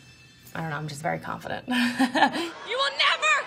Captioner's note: laughs